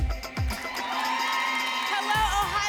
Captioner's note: applause and cheering